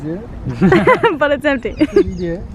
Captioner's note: giggling